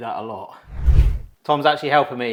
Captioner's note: scene whooshing